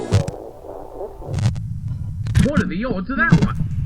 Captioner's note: rumbling continues